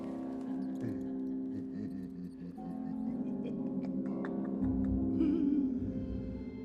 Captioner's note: Knock chuckles